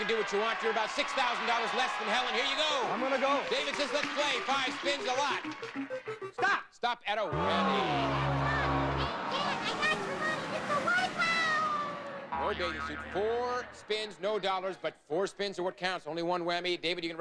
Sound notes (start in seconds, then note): 2.8 audience cheering; 7.3 audience aw